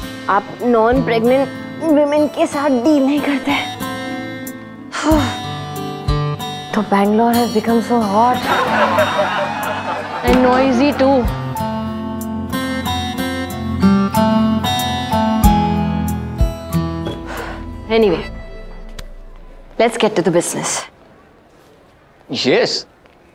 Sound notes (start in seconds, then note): 4.9 Tipsy sighs; 8.3 Laughing